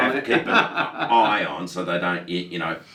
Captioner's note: laughing